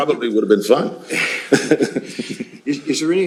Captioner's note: laughs